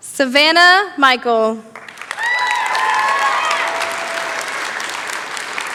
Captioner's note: cheering